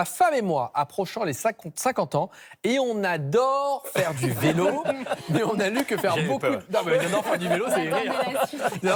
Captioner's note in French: rires